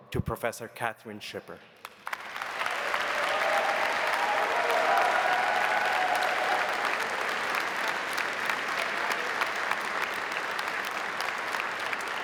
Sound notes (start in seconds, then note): 1.8 audience applauding; 2.1 audience cheering